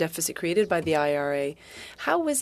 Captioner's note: speaking French